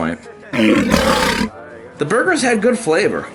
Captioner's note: monster growling